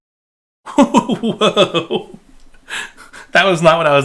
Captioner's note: laughing